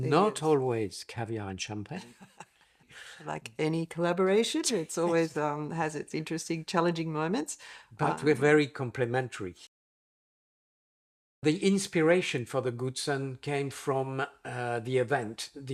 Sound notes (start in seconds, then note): 1.9 laughs